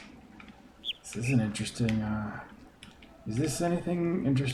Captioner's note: bird chirps ˥ ˩